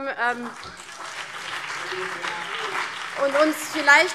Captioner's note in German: Beifall CDU, BÜNDNIS 90/DIE GRÜNEN und SPD